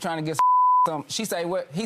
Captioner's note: beep